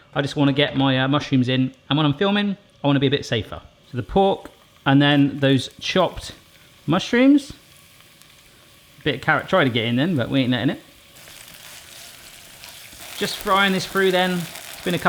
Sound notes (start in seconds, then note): 11.6 sizzling